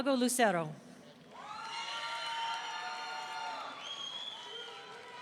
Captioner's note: audience cheering